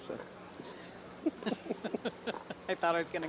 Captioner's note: laugh